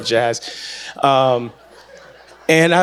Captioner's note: audience laughs